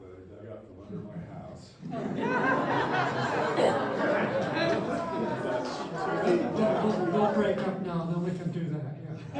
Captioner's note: laughter